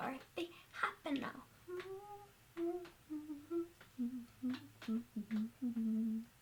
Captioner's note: continued humming